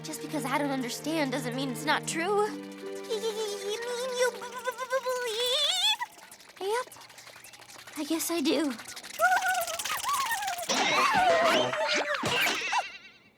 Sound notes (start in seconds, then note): 9.5 shudders